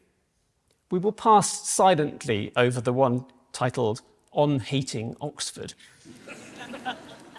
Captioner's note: laughter